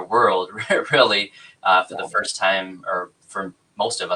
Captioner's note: laughs